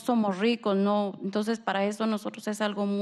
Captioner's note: speaking spanish